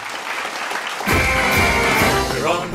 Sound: applause

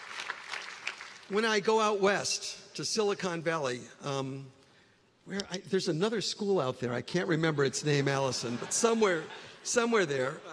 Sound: applause

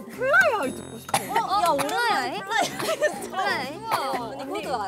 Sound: cough

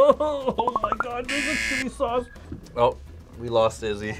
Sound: laughs; buzzer

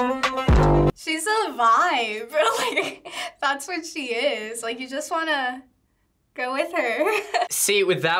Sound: chuckles

